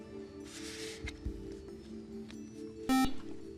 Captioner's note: beep